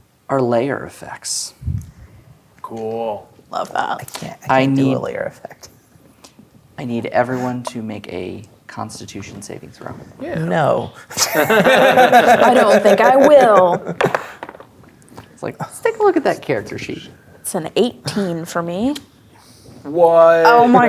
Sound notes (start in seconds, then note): 11.1 players laughing; 13.9 dice rolling